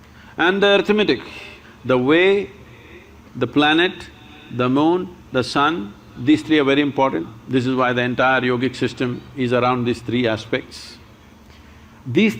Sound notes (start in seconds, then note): none